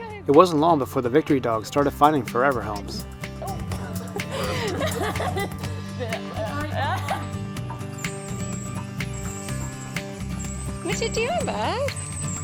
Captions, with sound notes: It wasn't long before the Vicktory Dogs started finding forever homes. [laughter] "Watcha doin' bud!"